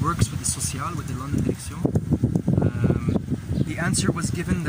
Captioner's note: speaking Arabic